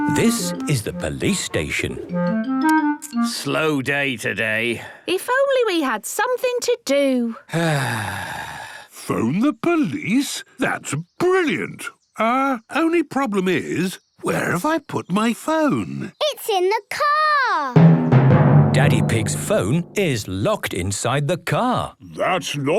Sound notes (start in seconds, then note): 7.4 sighs